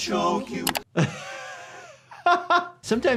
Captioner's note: laughs